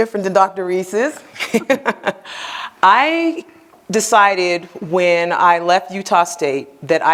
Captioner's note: laughs